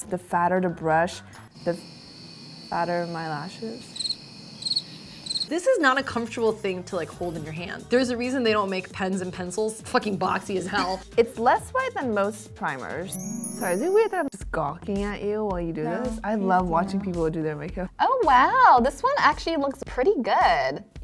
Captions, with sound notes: The fatter the brush, the fatter my lashes? (crickets) - This is not a comfortable thing to hold in your hand. There's a reason they don't make pens and pencils fucking boxy as hell. - It's less white than most primers. Sorry, is it weird that I'm just gawking at you while you do this? I love watching people do their makeup. - Oh wow, this one actually looks pretty good.